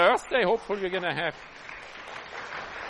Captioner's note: applause